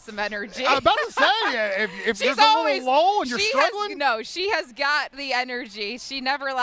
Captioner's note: laughter